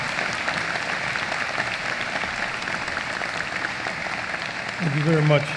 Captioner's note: applause